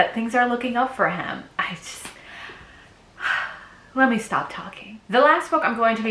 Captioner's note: sighs